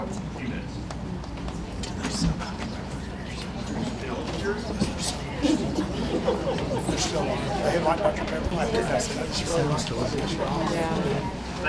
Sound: chattering

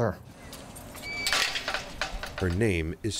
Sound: metallic creaking

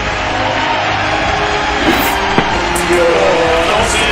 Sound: chop

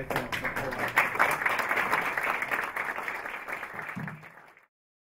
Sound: applause

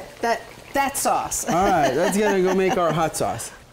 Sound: laughs

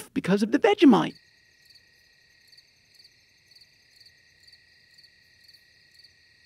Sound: crickets

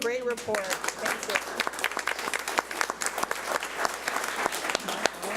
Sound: crowd applauds

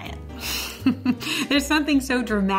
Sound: chuckles

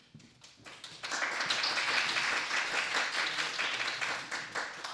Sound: applause

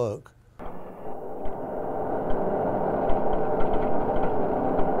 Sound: machine rumbling

